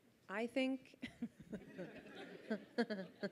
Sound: giggles

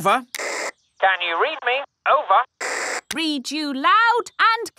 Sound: walkie-talkie crackles

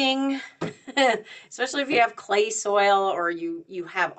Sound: chuckles

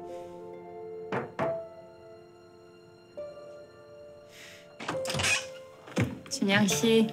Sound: knock sound

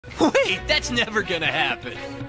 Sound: laughing

